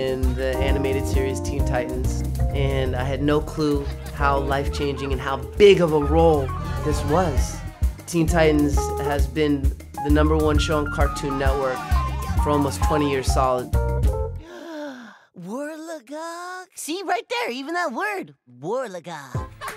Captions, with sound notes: and the animated series, Teen Titans. And I had no clue how life changing and how big of a role this was. Teen Titans has been the number one show on Cartoon Network for almost 20 year solid. (inhaling) Worlogog? See right there, even that word, worlogog.